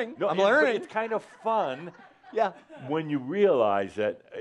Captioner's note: some chuckles